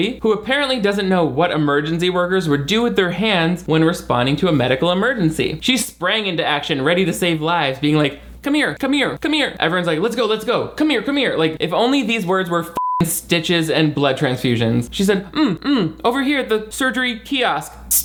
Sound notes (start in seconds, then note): 12.8 beep